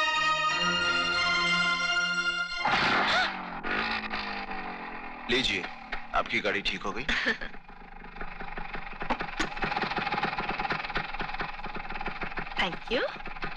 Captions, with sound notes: (Motorcycles Engine Starting) There! Your bike is all set. Thank you.